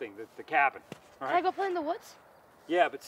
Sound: none

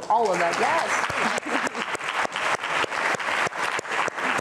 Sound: applause

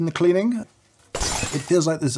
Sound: coffee bed shattering

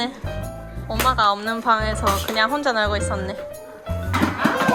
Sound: haha

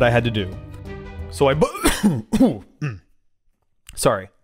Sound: coughs

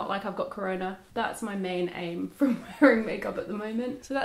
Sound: laughing

